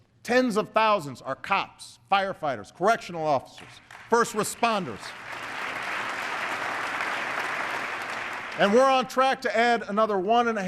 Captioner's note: applause